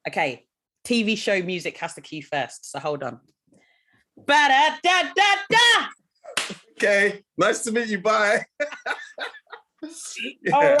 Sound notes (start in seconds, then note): 5.1 imitates catchy music; 8.4 both laughing